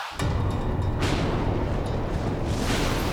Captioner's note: rain and thunder